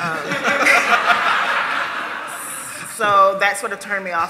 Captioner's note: laughter